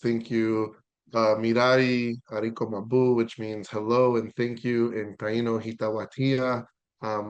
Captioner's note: Speaking Taino